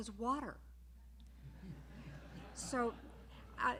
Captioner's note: laughter